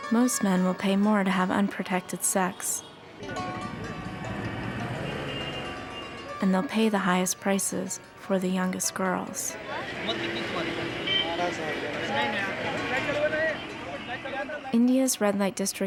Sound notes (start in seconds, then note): 3.2 traffic humming, people talking in background; 10.0 speaking Indian language